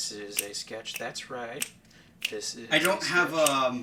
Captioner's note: snapping fingers